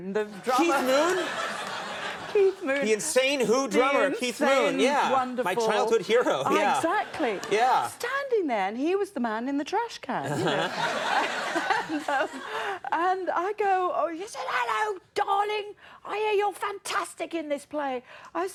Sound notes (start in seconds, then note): 1.5 audience laughing